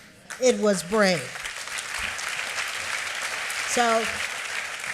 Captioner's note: applause